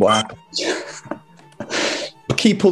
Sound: laughing

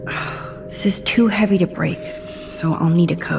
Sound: Max sighs

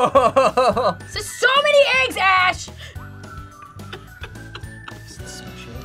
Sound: laughs

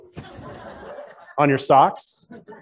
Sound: laughing

